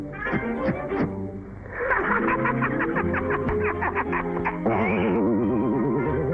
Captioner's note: laughing